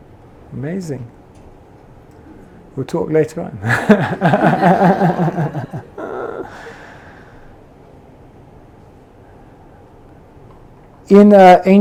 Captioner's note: laughs